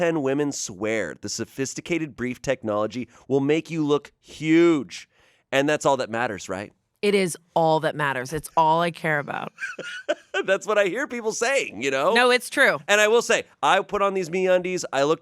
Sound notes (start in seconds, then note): 9.5 laughs